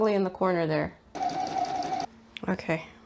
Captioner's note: sewing machine noises